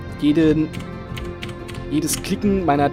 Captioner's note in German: Tastatur klickt